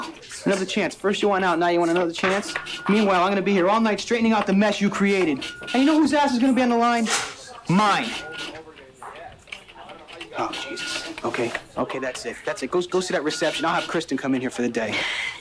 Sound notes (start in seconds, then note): 8.9 people chattering